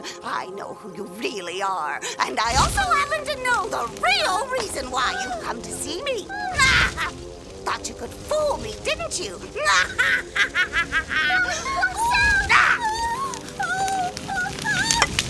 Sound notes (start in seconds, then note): 6.3 exclaims; 9.5 cackling; 12.8 fire crackling and Nellie exclaiming